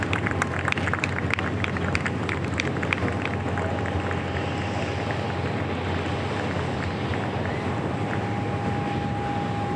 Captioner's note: applause